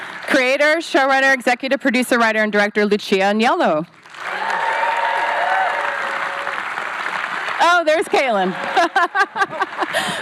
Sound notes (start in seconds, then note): 4.0 cheering, applause; 8.6 laughs